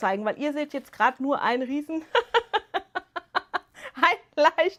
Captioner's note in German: gelächter